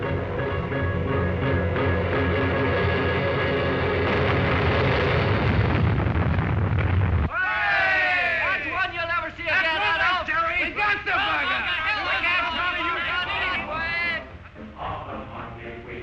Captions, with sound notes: (explosion) (men cheering) - [Voiceover] That's one you'll never see again! (men shouting and cheering)